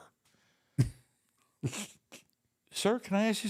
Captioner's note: Undertaker chuckles